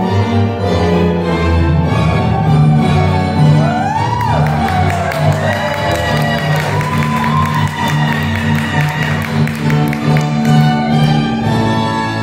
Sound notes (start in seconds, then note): 3.6 audience cheers